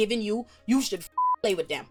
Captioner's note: beep